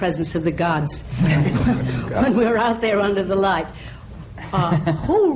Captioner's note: laughter